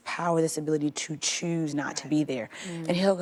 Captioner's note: agreeing mumbles